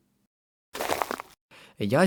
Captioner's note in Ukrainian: звук снігу